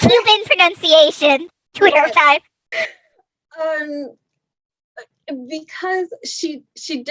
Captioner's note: laughs